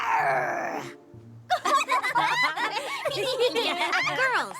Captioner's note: laughter